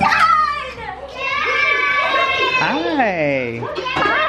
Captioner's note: cheering